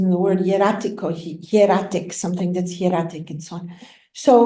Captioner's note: non-english